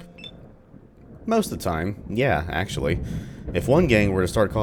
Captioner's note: thunder